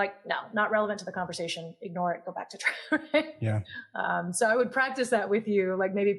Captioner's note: laugh